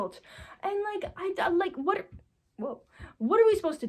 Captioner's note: stuttering